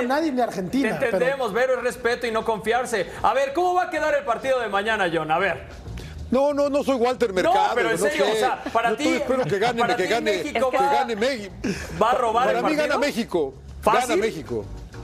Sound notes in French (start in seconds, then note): 5.3 todos hablando